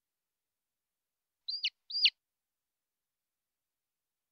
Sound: chirping

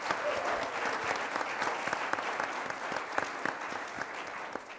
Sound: audience applauding

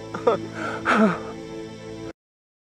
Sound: sobs

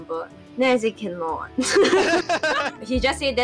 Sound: laughs

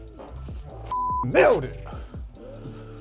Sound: beep

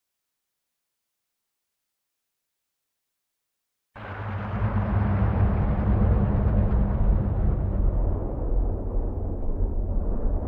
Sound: sound of scary castle

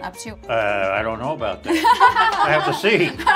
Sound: laughing

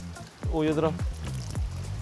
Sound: pouring

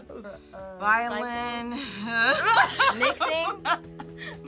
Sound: laughs

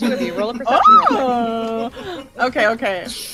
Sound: laughter and excited noises

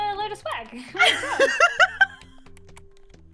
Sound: laughter

